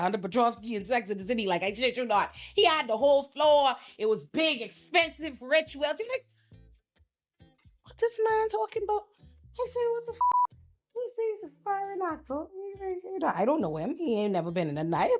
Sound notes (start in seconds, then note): 10.2 beep